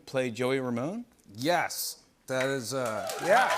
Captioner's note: cheers and applause